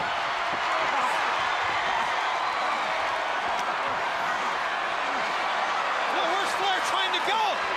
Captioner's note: crowd cheering